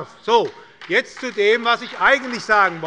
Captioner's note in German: Beifall bei der SPD